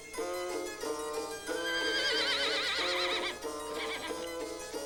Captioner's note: horse neighing